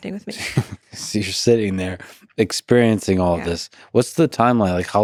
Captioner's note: chuckles